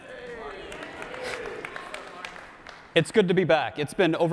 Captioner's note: audience claps and responds